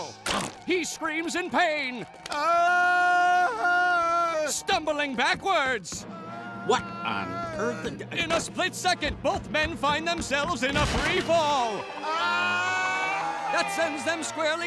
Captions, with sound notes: He screams in pain. [screaming] Stumbling backwards! What on earth... In a split second, both men fid themselves in a free fall... [screaming] that sends them squarely